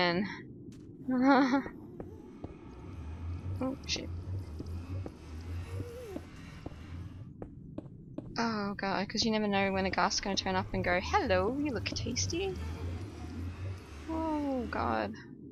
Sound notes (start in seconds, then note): 1.8 nervous laugh; 5.1 ghasts cry in the background